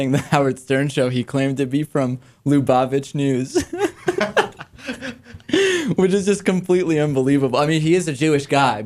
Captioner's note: laughs